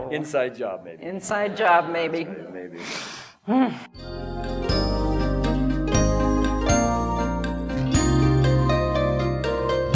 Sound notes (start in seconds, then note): 2.8 sighs; 3.9 relaxing music